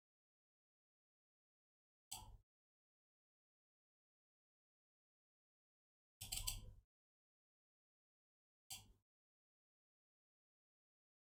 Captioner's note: blank Audio